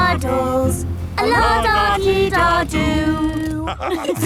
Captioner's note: laughter